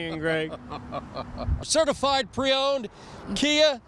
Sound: laughing

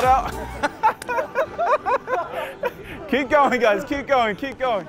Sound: laughs

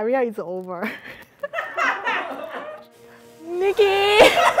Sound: all laughing; all laughing

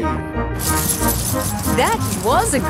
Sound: coins jingling

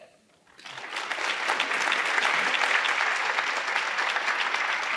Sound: audience applauding

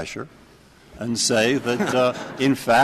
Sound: laughter

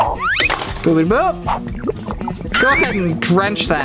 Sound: olive oil gurgling

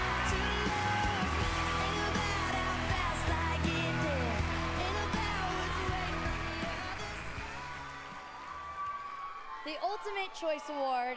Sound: cheers and applause

